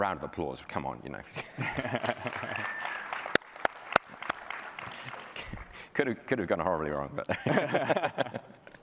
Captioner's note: applause